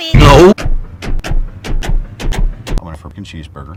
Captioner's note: family trip sounds